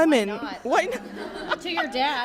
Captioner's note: laughs